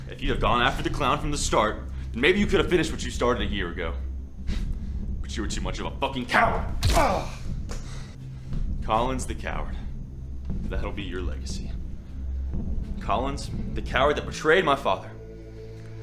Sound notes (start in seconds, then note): 6.7 kick thuds; 6.8 Collins grunts